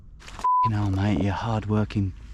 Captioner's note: beep